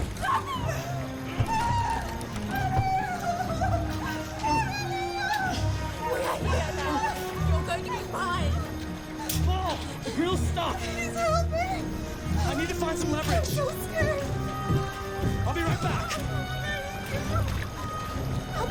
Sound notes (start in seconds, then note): 0.2 screams; 5.1 sobs